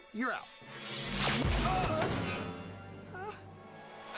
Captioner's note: Doogal whimpers